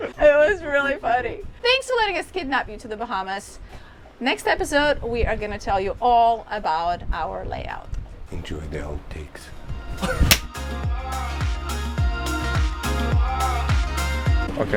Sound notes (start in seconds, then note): 10.2 hands smack; 12.0 upbeat techno music